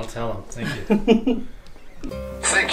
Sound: giggling; mood music

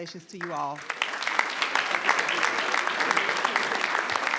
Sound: audience clapping

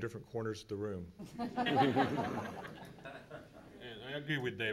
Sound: laughing

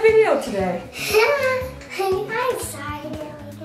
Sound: laughing

